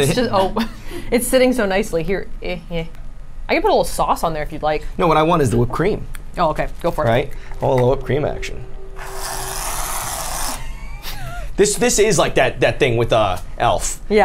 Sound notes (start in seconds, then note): 9.2 Reddi-wip spraying; 10.4 the group laughs